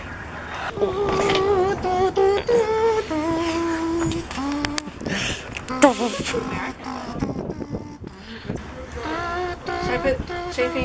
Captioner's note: humming